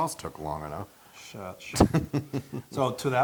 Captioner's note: laugh